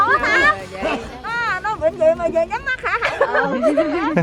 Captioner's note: the ladies are talking